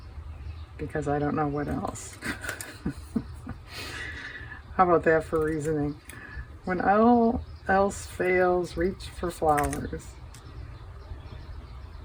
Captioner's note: laughs